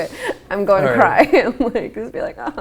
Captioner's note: laughs